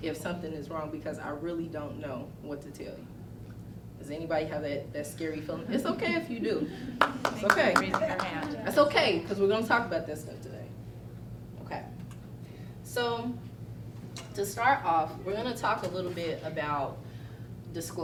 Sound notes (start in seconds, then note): 7.0 clapping